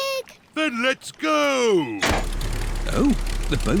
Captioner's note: lever clunks